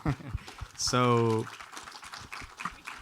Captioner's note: audience applauds